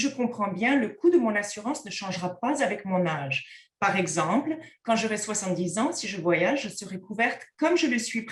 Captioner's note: content in French